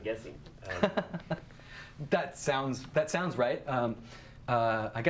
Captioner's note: chuckles